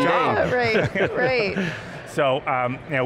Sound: laugh

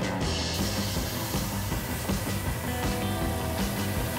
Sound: steak sizzling

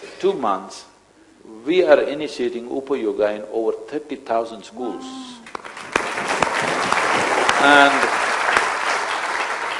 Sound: applause

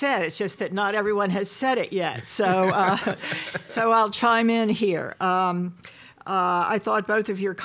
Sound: laughter

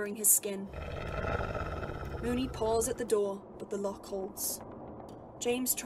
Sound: Moony growls

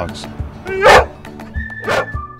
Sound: barking

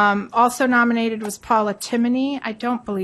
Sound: none

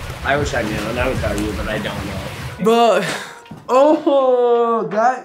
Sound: none

